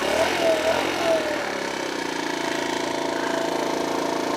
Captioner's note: scooter engine hums